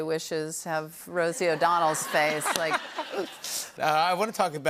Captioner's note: laughter